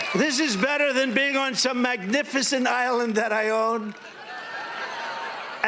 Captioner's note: applause